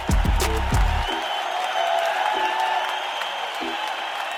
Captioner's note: audience cheering